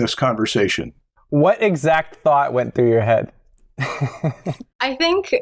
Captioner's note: laughter